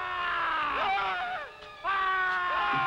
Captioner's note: Bruno screaming; Krupp screaming; both screaming